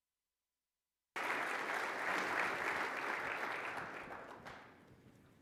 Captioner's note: audience applauding